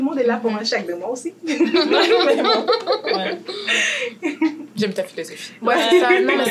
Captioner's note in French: rires